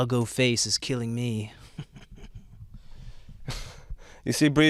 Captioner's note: laughing